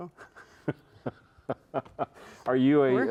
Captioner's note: chuckling